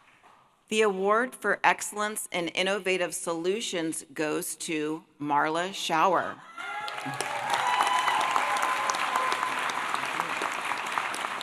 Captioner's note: applause